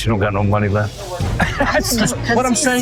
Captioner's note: laughing